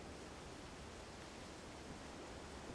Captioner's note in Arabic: نسيم عليل